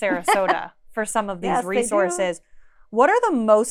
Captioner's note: laughs